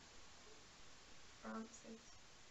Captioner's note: whispers